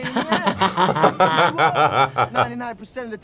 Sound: laughing

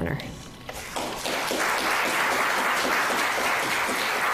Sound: audience applauds

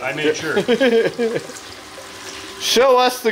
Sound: laughter

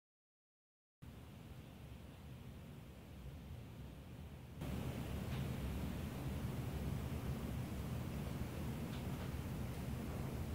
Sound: sound of rain and scary wind

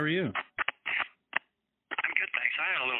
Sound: phone crackling

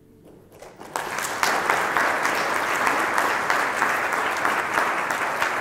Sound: audience applauds

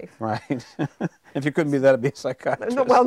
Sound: chuckling

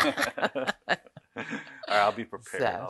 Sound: laughs loud

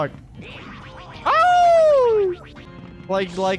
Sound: howls like dog

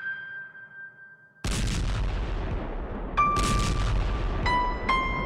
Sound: bombs exploding

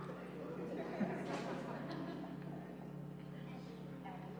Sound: laughter

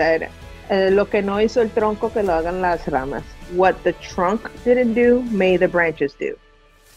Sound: in Spanish

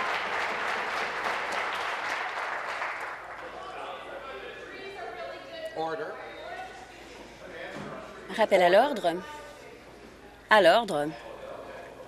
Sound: voice fading; cheers; applause

